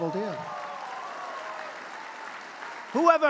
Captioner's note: applause